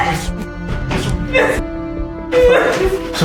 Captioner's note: gasps; Raquel sobbing